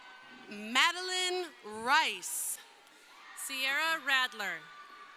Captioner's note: crowd cheering